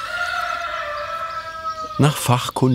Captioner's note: A rooster crows